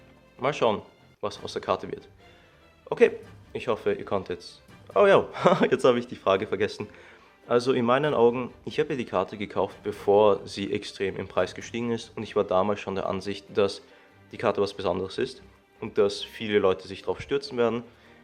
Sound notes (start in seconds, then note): 5.3 embarassed laugh